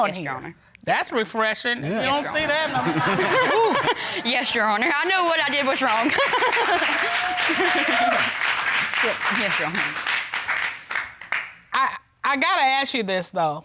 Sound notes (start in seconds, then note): 3.1 chuckles; 5.2 audience applauds; 6.1 chuckles